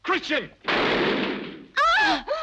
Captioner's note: gun bangs; Brigitte screams; Helene gasps